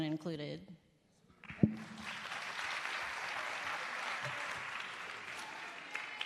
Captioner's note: applause